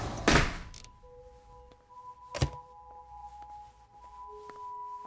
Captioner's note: sliding door slamming; sliding door rattling